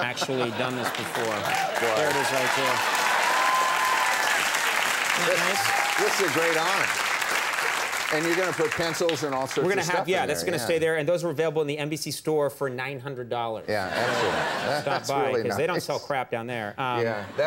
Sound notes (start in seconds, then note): 1.6 audience cheers; 13.8 audience laughs